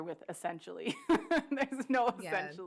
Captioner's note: laughs